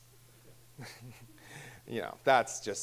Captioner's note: chuckling